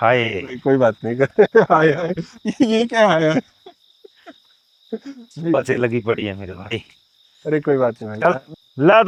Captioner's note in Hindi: हंसी